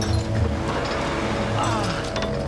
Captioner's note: grunting; groaning